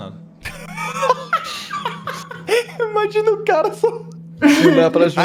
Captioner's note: laugh